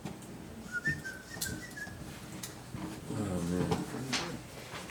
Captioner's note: someone whistling